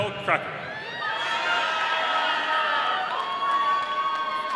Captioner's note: audience cheering